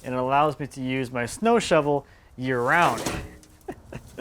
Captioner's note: laughs